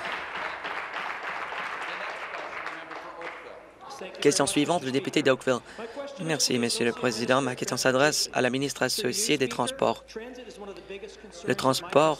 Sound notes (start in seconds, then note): 0.0 applause